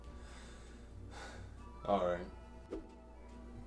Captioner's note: sighs